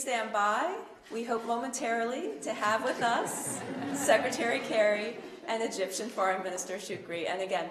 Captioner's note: laughter